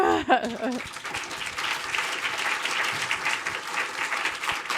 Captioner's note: audience applauding